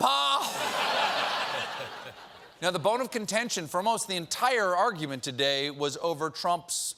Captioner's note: laughter